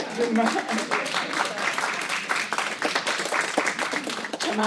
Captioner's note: applause